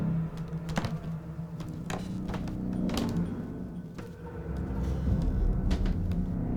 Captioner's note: floor creaking, footsteps